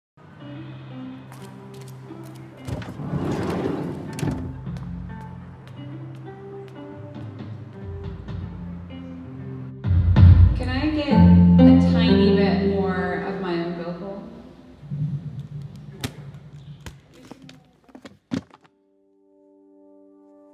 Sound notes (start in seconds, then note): 0.4 guitar plays gently during soundcheck; 2.6 van door whooshes; 8.2 drum thuds; 15.8 case clicks